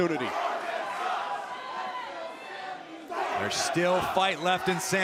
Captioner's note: crowd cheering